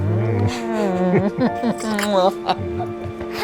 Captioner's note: laughs; chuckles